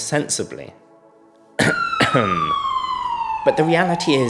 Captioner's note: ahem